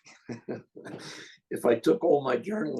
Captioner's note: laughs